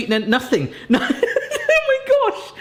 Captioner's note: laughing